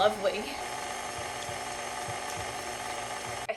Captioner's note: more whirring